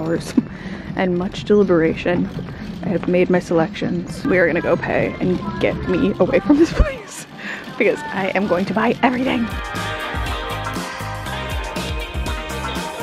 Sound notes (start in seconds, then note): 6.0 laughs; 10.3 upbeat music